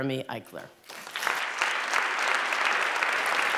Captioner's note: applause